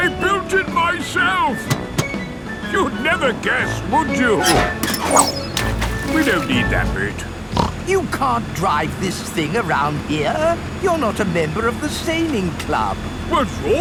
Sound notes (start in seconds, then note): 4.6 splashes; 7.5 snorts